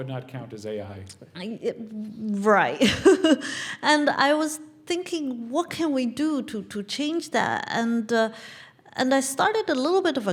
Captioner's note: laugh